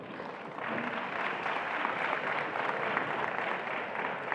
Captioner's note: attendees applauding